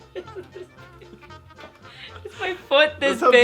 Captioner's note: giggling